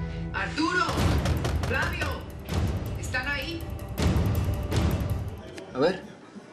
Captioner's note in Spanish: toques en la puerta